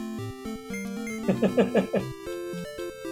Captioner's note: chuckles